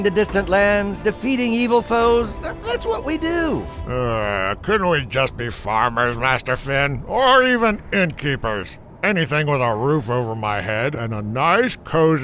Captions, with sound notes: That's what we do. - (groans) Couldn't we just be farmers, Master Finn. Or even inn keepers. Anything with our roof over my head and a nice cozy bed to snuggle up in at night.